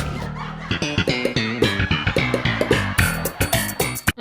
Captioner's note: laugh track plays